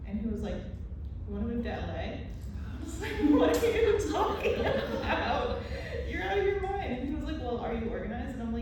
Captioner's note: gasps